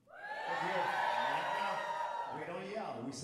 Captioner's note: audience cheering